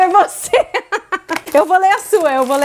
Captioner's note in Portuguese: risos